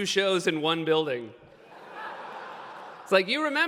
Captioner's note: laughter